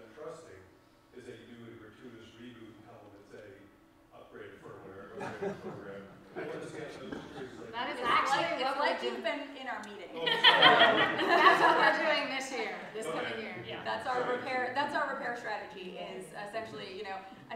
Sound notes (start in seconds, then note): 5.6 faintly speaking; 10.2 laughs